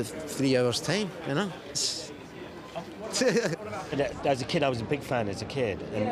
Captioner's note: laughs